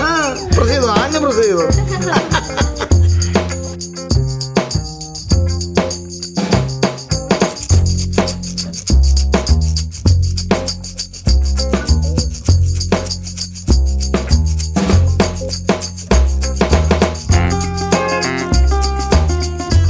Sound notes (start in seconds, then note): 0.1 kids laugh; 1.6 everyone laughs